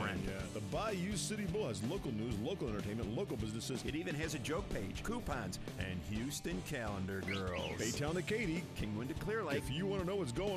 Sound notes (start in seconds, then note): none